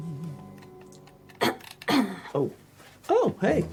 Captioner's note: Mrs. Harris clears throat